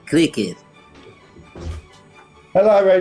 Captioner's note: door closes